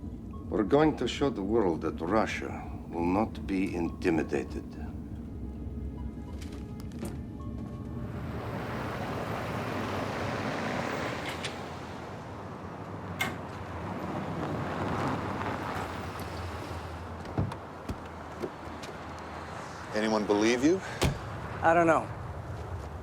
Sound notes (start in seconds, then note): 17.2 door open close